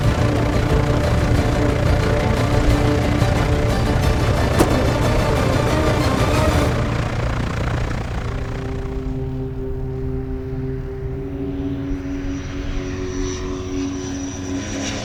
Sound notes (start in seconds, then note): 8.9 somber orchestral music; 9.5 plane roaring